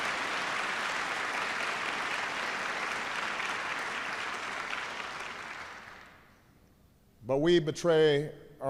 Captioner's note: applause